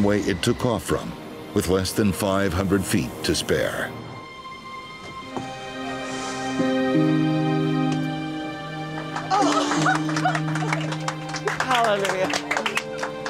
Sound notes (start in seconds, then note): 5.6 soft inspiring music; 8.8 all clapping